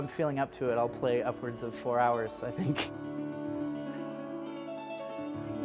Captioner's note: laughs